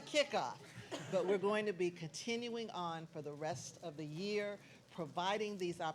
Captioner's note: laughs